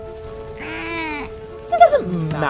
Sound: meow

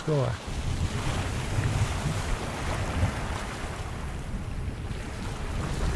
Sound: waves splash and wind blows

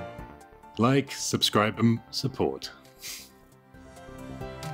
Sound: snickers

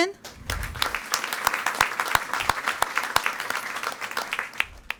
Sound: audience applauding

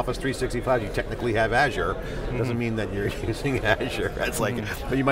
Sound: laughs

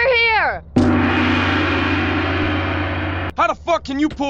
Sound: gong

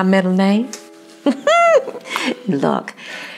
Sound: laugh

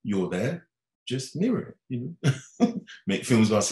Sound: laughing

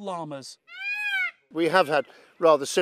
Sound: peacock screaming

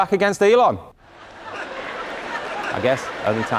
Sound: audience laughing

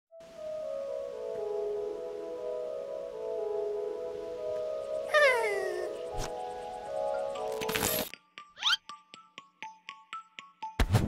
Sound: Eevee Sound

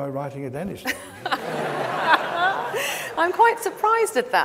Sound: audience laughs

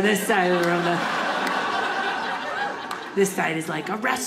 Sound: audience laughing

